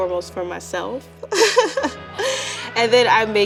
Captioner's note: laughing